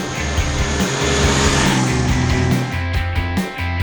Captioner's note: motorcycle revving over music